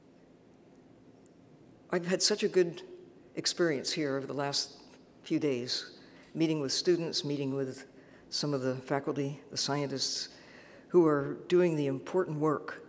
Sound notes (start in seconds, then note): none